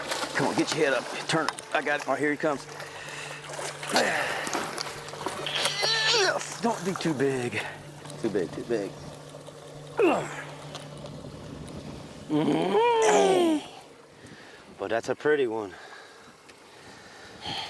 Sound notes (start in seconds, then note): 3.1 grunting; 9.9 grunting